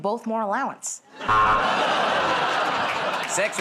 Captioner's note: buzzer